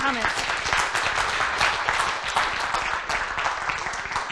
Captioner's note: applause